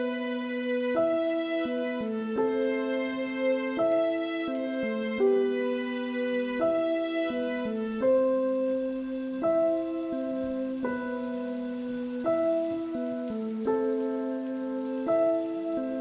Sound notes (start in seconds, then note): 7.3 alarm sound